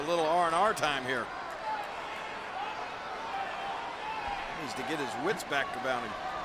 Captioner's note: applause